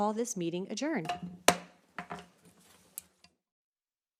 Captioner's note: gavel hitting dais